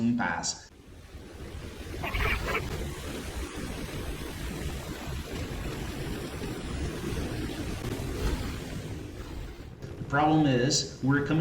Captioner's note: aircraft Engines ,Gunfire, Flying Sounds